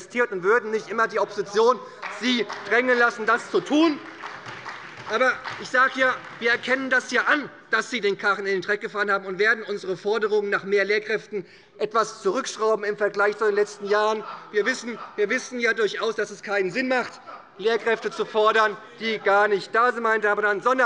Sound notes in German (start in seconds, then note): 4.3 Beifall bei der SPD; 13.7 Lachen des Abg